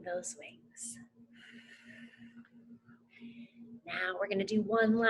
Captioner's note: lightly exhales